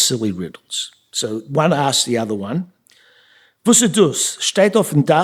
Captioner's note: speaking yiddish